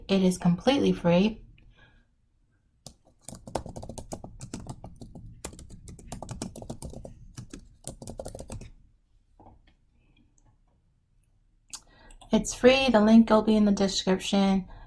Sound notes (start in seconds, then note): 6.4 types softly